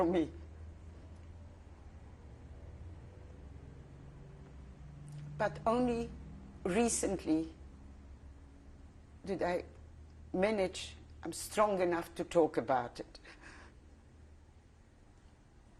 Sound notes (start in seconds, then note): 13.1 pauses for 3 seconds